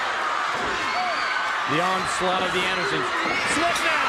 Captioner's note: crowd cheering